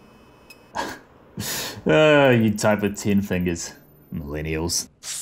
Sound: laughs

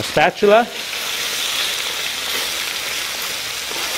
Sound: oil sizzling

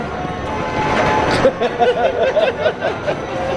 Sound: laughter

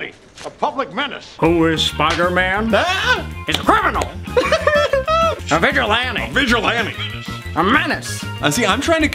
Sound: both laugh

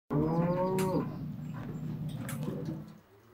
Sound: cow mooing

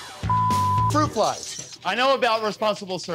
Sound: beep

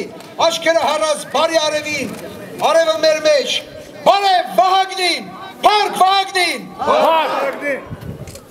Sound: crowd

